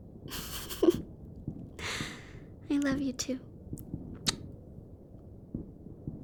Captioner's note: giggles; kiss